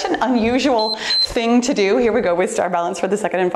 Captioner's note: timer beeps